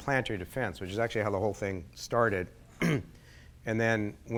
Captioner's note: clears throat